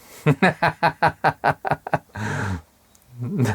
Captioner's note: laughs